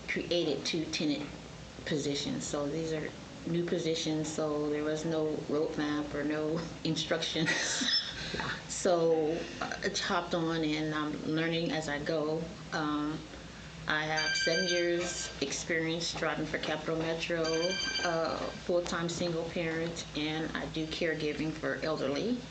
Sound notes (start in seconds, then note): 7.4 laughs; 14.2 phone rings